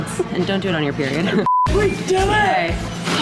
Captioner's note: beeping